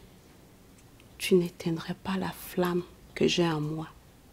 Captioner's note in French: none